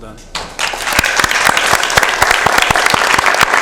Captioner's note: applause